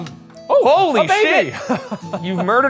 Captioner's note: projector clicking; chuckles